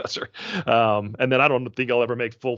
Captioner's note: chuckling